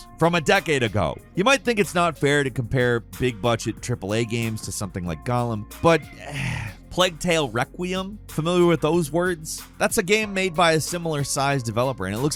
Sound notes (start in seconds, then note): 6.1 groans